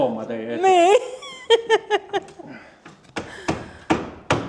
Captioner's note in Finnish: naurua